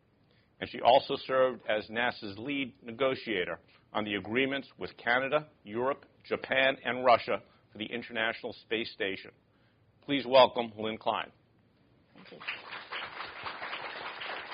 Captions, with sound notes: and she also served as NASA's lead negotiator on the agreements with Canada, Europe, Japan, and Russia for the International Space Station. Please welcome Lynn Cline. [ Applause ]